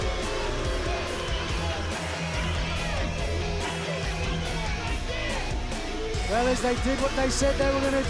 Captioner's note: crowd cheering